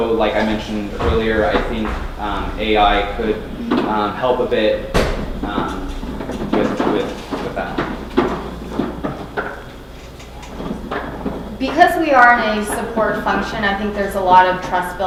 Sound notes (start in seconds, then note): none